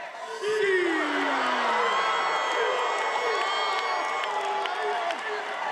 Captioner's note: attendees cheering